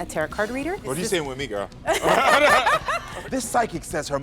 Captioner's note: both laughing